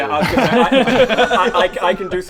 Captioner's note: laughs